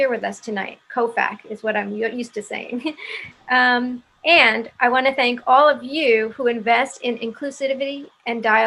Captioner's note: laughs